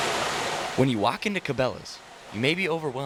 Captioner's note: voiceover